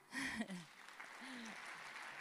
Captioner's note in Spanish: aplausos